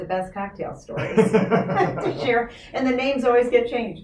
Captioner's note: laughing